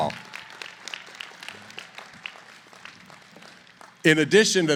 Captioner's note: applause